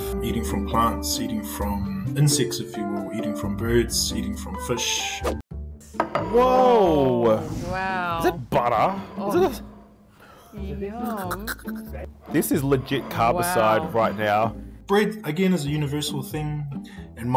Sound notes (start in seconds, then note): 10.9 gags